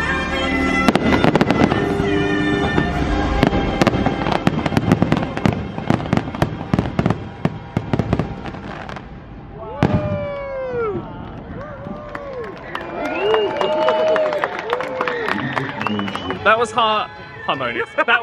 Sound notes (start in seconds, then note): 9.6 friends exclaim; 11.8 guests cheer and applaud